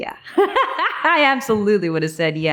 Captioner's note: Anne laughing